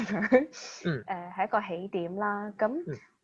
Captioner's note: makes a sound of agreement